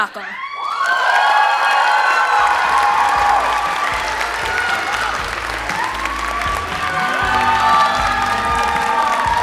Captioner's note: applause